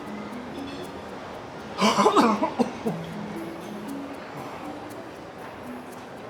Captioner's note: blows a kiss and coughs